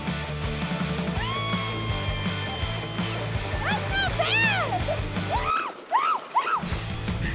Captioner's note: screams